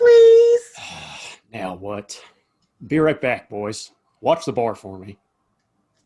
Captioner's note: sighing